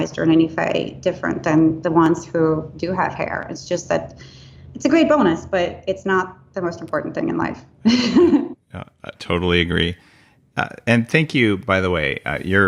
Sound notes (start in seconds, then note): 7.9 laughing